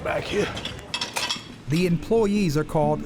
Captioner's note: dishes clattering